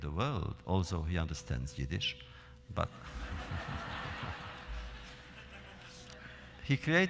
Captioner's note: laughter